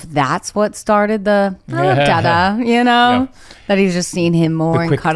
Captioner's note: laughs